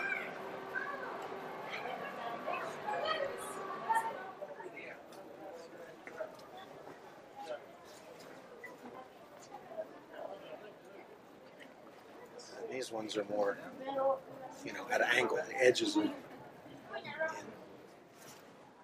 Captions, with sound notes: (child speaking foreign language) (people chattering faintly) - These ones are more, you know, at an angle, the edges in.